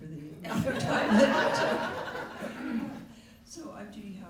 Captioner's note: laughter